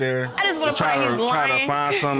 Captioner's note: laughs